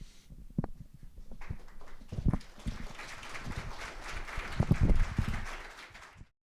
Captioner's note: applause